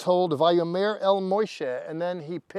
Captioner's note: speaking in Hebrew